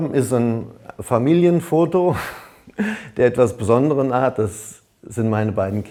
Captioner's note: laughing